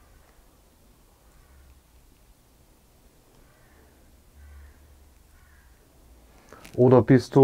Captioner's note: wind and ravens in the background